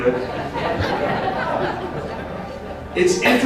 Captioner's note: crowd laughs